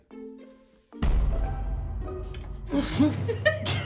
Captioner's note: comical music; explosion; comical music; both giggle